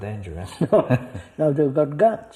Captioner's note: laughs